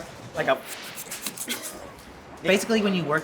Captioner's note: sniffs